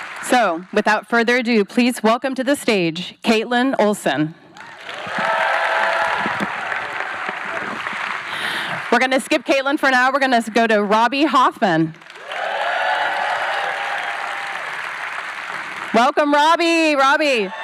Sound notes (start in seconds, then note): 4.5 cheering, applause; 12.0 cheering